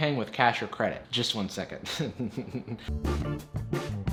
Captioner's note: laughs